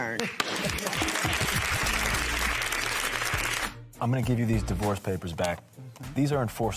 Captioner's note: applause